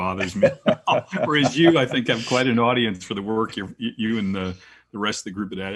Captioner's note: laugh